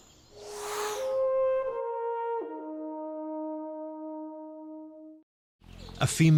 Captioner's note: air whooshing; haunting orchestral music